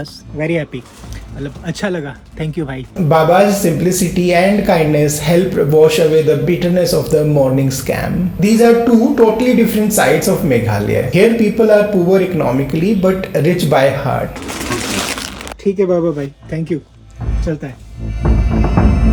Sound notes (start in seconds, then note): 14.1 crunching